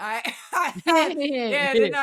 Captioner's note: laughing